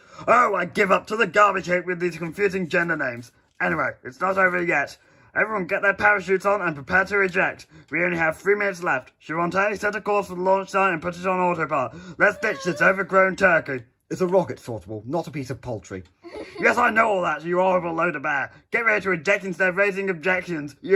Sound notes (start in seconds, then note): 12.0 ST groans nervously; 16.2 ST laughs